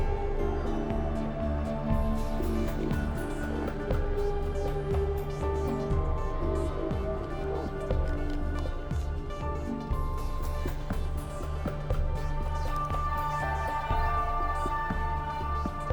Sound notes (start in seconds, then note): none